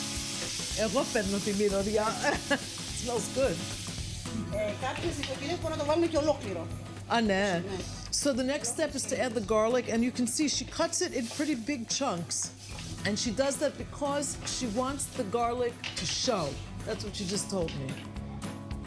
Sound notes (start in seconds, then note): 0.2 speaking greek; 5.9 speaking greek